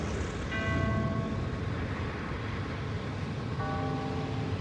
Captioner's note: ding; dong